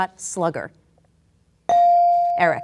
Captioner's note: bell dinging